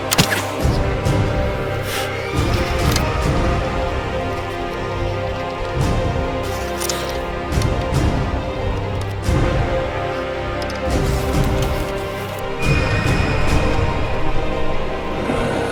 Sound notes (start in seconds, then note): 0.1 arrow whooshes; 2.3 dragon screeches; 12.6 dragon screeches